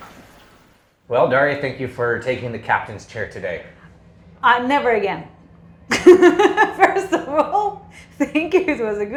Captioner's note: laughing